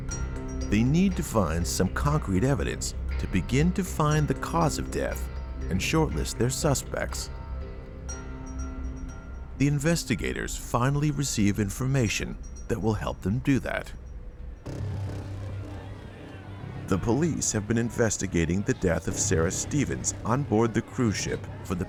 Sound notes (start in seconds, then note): 14.6 guests faintly yelling; 14.7 ominous music